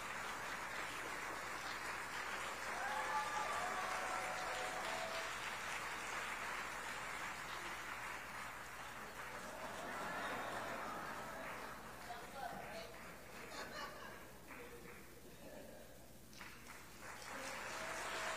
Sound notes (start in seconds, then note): 3.2 applause